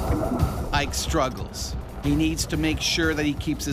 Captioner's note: voiceover